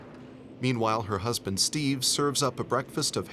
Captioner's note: voiceover